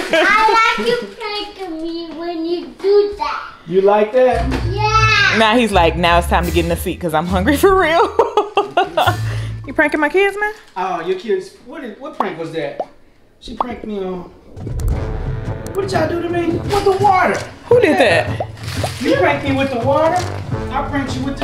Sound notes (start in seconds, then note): 7.5 laughing